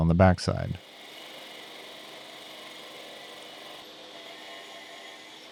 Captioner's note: machine whirring